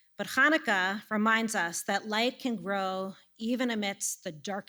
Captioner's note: none